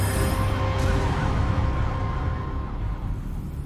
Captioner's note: siren sounds